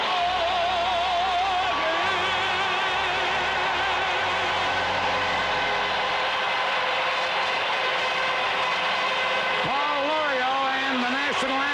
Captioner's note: applause